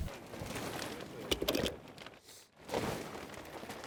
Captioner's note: tarp rustling